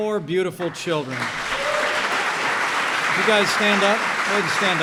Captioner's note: applause